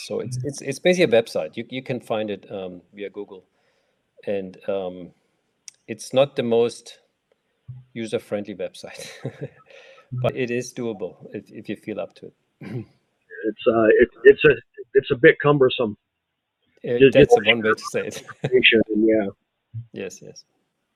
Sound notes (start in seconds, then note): 9.0 chuckling